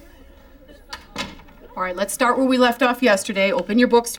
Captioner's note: door closes